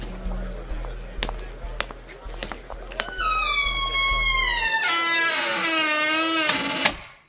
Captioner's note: footsteps, door slamming